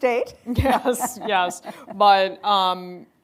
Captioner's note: laughing